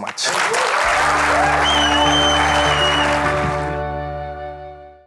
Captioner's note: audience applauding and cheering